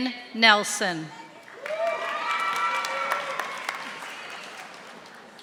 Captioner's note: audience applauding